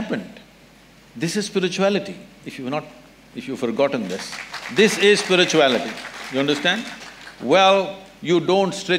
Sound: applause

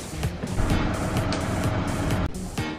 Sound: engine sound

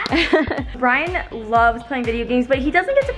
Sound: laughs

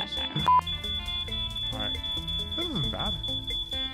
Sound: fire alarm continues

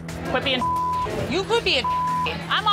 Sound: beep

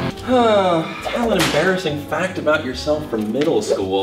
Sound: electric guitar; exhales deeply

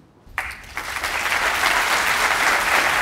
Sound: applause

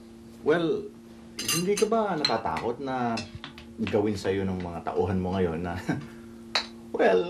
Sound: chuckles

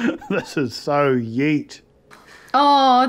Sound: laughs

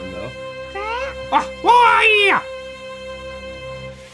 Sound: fighting noise

